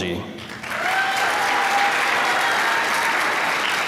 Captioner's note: applause